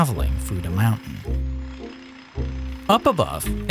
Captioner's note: drill rattling